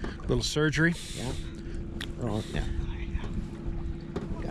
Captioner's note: fish splashing